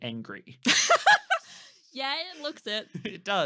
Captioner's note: laughing